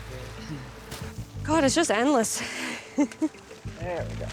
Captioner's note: laughing